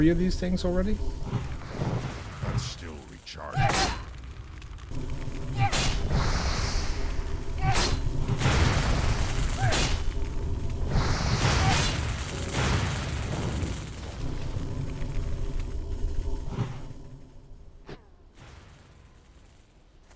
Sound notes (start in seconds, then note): 5.4 grunts